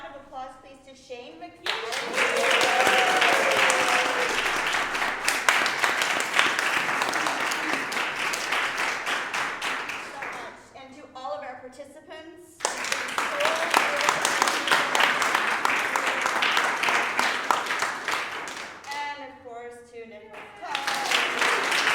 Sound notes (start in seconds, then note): 0.1 applause; 9.5 cheers and applause; 20.3 applause